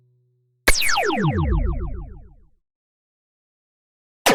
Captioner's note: laser light sound